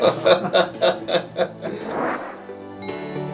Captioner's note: laughing